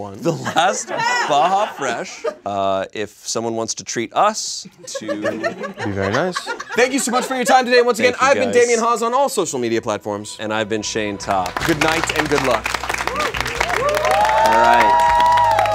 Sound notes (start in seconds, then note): 13.1 audience applauds and cheers